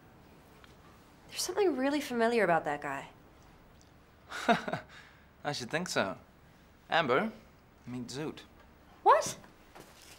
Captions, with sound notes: - There's something really familiar about that guy. (Jay chuckles) - I should think so. Amber, meet Zoot. - What?